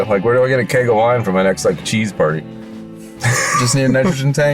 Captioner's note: laughs